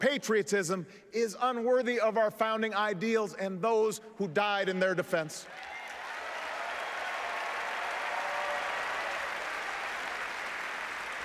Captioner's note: applause